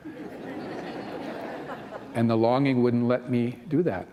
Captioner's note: laughter